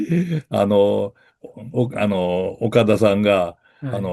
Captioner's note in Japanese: 咳払い